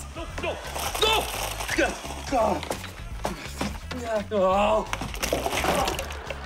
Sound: groaning

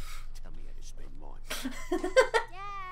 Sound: giggle

